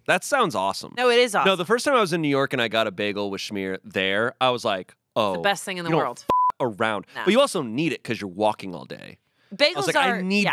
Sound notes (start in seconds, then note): 5.9 beep